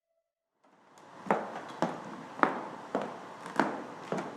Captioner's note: footsteps